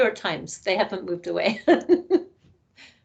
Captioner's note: laughing